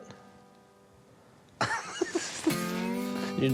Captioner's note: laughs